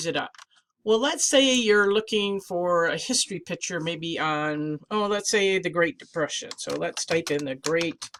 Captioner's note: typing